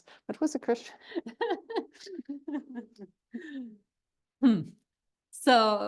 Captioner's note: laughter